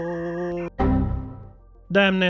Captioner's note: sudden crash